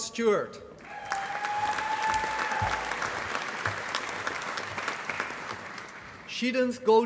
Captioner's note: applause